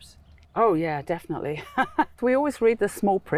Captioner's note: laughs